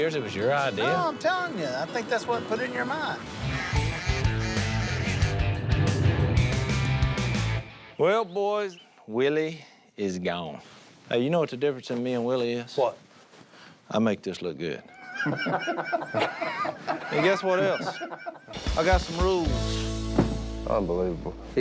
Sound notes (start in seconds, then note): 3.2 ducks quacking; 3.2 peppy bluegrass music; 14.9 group laughing